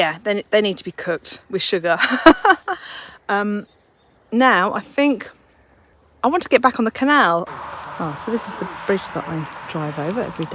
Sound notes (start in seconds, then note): 2.0 laughs